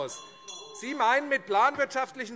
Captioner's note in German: Unruhe - Glockenzeichen